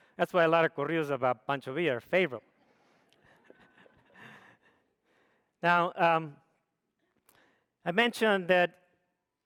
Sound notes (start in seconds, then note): 3.1 audience laughs